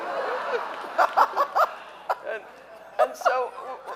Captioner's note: audience laughing